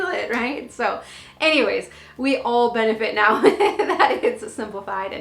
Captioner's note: laughs